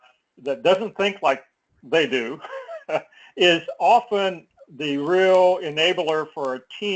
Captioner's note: laugh